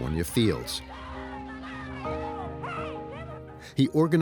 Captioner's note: crowd members shouting